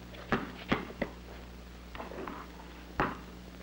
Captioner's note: ball thumping